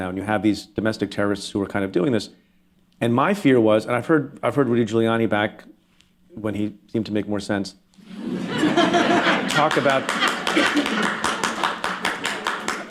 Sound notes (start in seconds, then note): 8.0 laughter; 8.5 applause